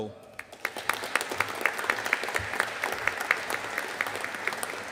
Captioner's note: audience applauding